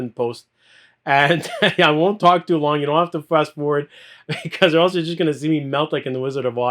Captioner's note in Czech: smích